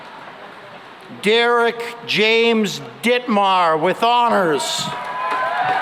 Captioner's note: cheering and applause